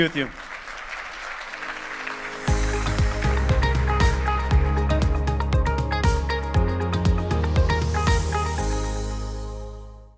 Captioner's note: applause